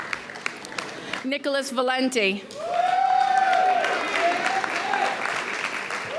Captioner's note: audience cheers